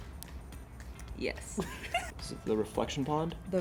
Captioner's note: laughs